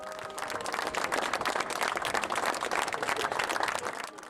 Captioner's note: group clapping